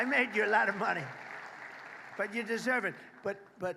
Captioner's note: applause